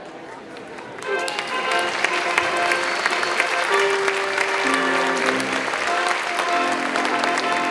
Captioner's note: attendees applauding; ceremonious music continues